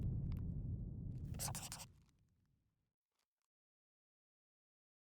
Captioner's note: scribbling